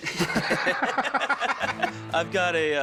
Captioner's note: laugh